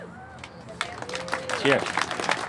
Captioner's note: applause